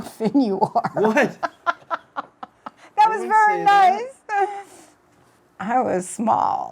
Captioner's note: laughter